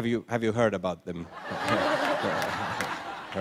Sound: laughter

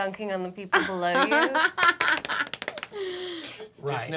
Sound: Fig laughing

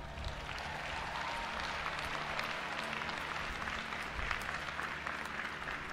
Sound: audience applauding and cheering

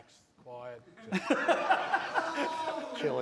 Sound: laughter

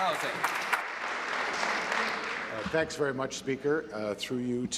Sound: applause

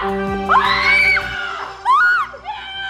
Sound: victory music; screaming

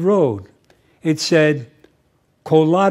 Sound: french

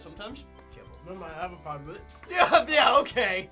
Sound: mumbling with mouth full

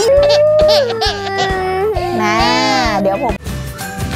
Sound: crying

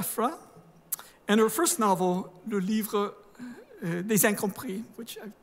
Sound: speaking french; speaking french

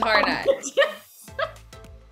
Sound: laughs

